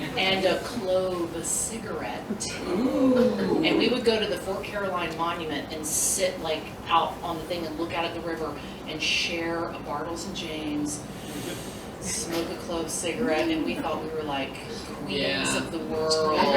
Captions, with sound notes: And a Clove cigarette. Ooh. And we would go to the Fort Caroline Monument and sit out on the thing and look out at the river and Bartles and Jaymes, [SLOW INHALE] smoke a Clove cigarette, and we thought we were, like-- Yeah. --queens of the world.